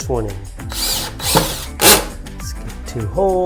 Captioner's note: drill whirs